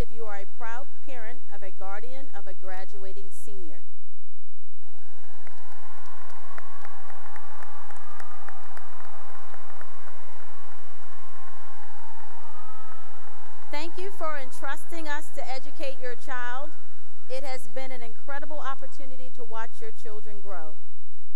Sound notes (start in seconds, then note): 5.0 cheering and applause